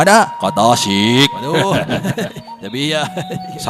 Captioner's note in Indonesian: gelak tawa tak jelas